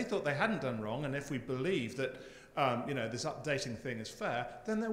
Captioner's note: none